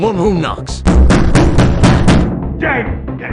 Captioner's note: bass Boosted Knocking Knoises